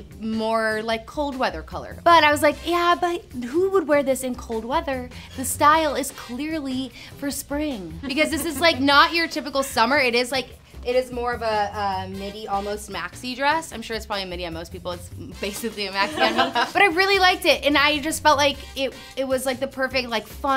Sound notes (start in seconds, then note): 8.0 laughs; 16.0 laugh